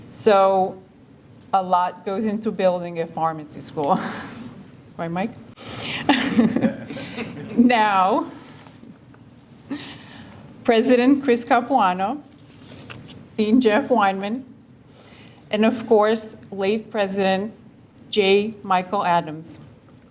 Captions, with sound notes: So a lot goes into building a pharmacy school, right Mike? (laughter) Now, President Chris Capuano, Dean Jeff Weinman, and of course late President Jay Michael Adams